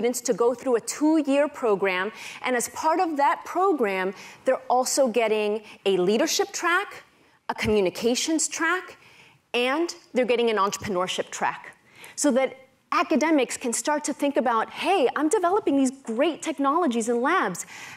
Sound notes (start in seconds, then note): none